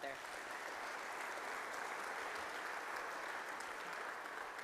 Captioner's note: audience applauding